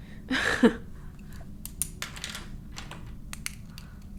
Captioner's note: laughing